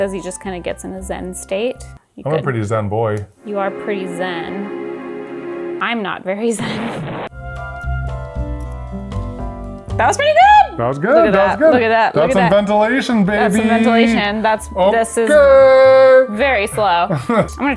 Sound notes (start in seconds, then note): 3.4 ethereal music; 6.6 explosion blasting; 7.8 pleasant music